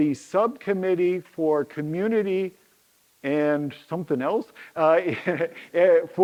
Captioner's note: chuckles